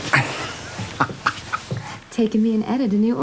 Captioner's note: laughs